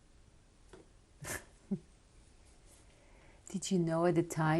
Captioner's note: laughs